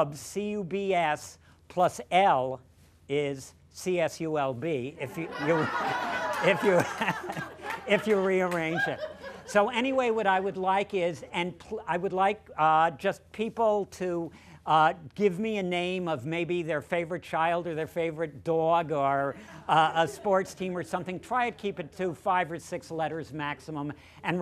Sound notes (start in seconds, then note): 7.9 laughter